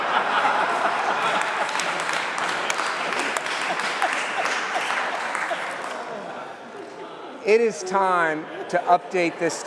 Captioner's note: laughter